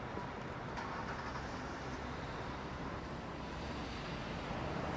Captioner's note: car engine starting